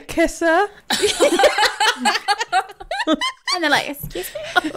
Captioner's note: laughing